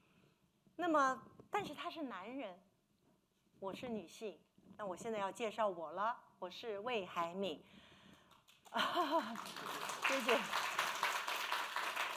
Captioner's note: speaking Mandarin